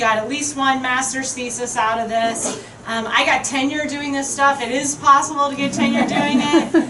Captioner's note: crowd chuckling